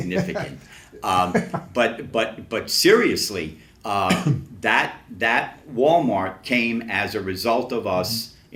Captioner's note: laughs